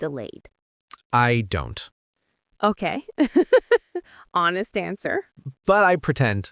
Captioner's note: laughs softly